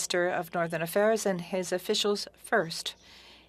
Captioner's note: speaking French